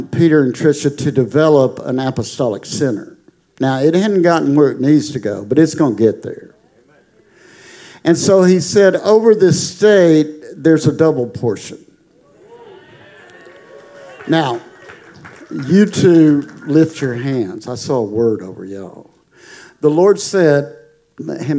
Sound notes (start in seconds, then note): 12.2 congregation applauding